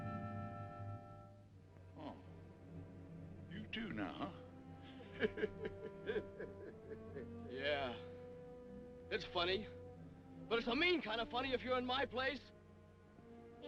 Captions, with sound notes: - Huh. You, too, now, huh? (laughing) - Yeah. It's funny. But it's a mean kind of funny if you're in my place.